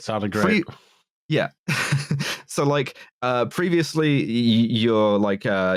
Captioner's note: laughs